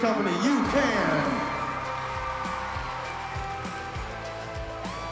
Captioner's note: applause and cheering